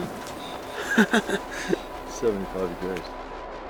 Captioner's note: laughter